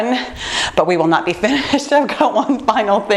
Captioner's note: laughs